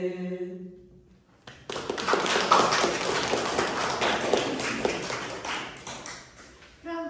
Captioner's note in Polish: oklaski